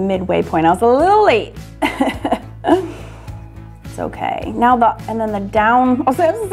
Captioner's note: laughs